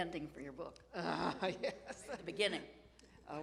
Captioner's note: laughs